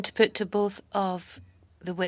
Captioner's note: speaking in French